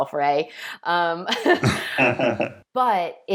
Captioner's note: laughing